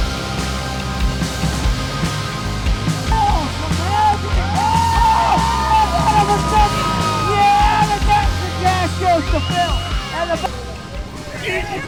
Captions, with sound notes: [CHEERING] Yeah! The Dash for Cash goes to PhIl!